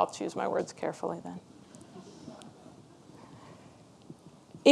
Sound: audience laughs

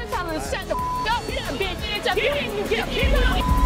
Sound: indistinct shouting

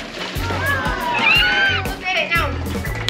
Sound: crowd oohs and aahs

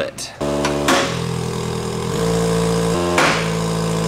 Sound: press buzzes; loud pop

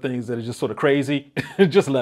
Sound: chuckles

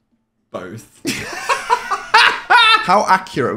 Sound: laughing

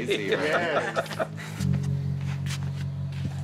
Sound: laughs

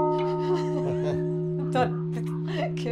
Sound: laugh

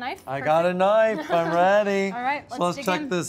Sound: laughs

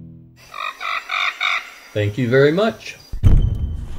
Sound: monkey screeching

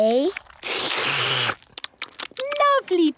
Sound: all slurping

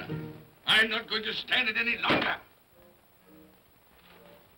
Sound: thumps on desk

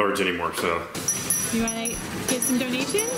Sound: bell dinging

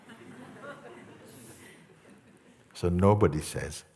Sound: laughter

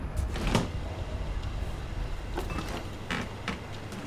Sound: fridge door creaks

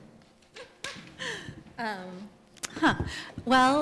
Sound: laugh

